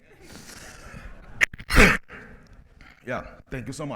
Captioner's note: presenter coughs, lady talks indistinct